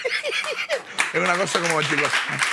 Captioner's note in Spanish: Aplausos